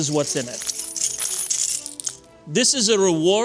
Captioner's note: coins clinking